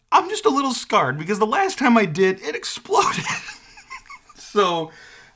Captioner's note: laughs